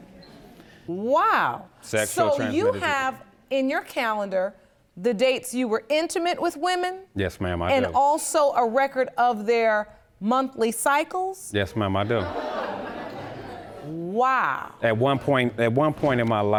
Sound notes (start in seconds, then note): 10.5 audience gasps